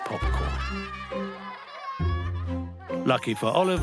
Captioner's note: all laughing